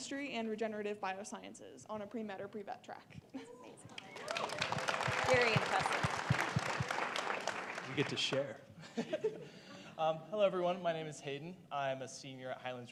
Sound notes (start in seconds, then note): 6.8 applause